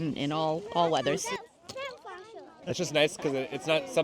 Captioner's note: indistinct chatter